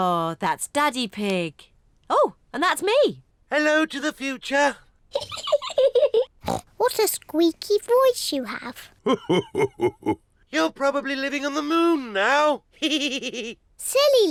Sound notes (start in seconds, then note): 5.4 laughs; 13.5 chuckles